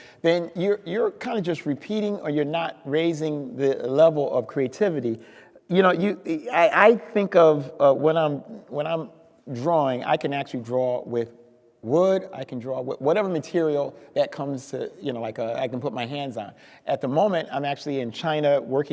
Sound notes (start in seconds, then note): none